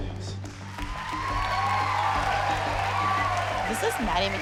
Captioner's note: applause, cheering